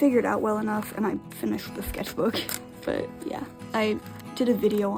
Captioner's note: laughs